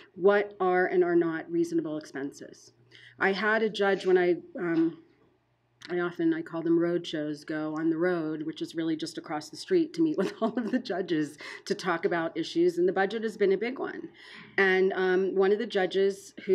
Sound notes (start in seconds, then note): 10.2 laughing